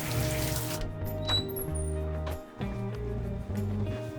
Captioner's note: door creaks